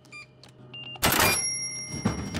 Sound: machine beeps

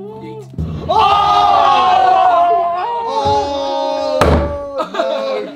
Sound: drum beats; all screaming

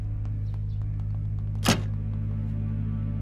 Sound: door shuts

